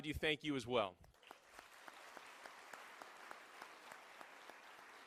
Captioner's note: applause